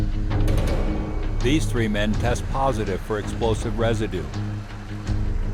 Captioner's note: voiceover